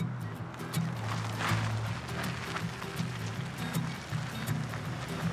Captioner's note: car pulling up sounds